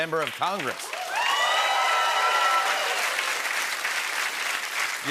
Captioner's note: cheering and applause